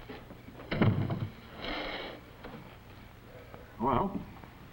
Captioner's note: door closes